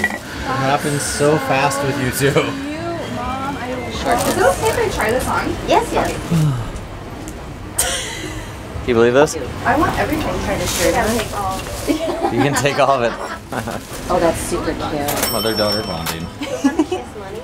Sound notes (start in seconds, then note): 6.3 sigh; 7.8 laughter; 11.8 laughter; 16.4 laughter